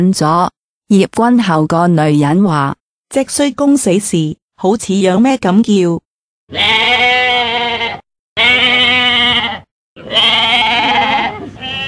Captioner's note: screaming goat roar